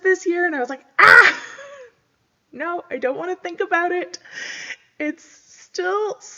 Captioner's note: screams